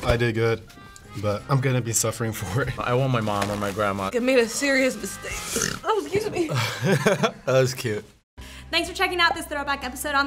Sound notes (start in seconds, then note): 5.4 burps; 6.4 laughs